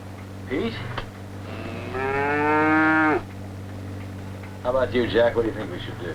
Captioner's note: mooing